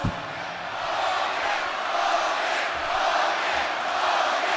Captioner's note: crowd cheering